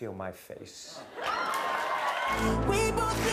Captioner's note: cheers and applause